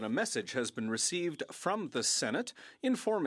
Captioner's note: speaking French